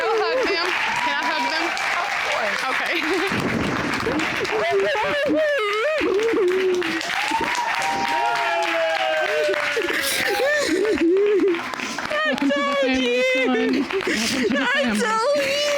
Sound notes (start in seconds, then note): 4.7 crying, indistinct dialogue